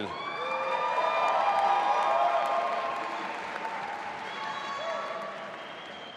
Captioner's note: audience applauding and cheering